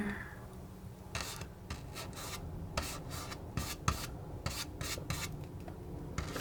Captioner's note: scratching